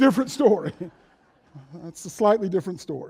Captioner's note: chuckles